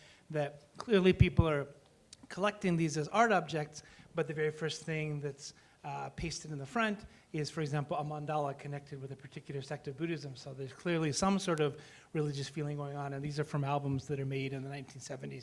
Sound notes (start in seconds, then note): none